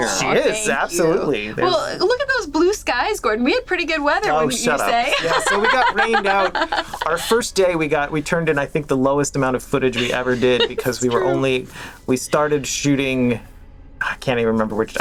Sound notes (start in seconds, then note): 4.6 laughs